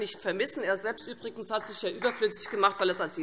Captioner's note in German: Beifall